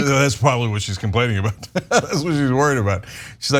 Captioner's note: laugh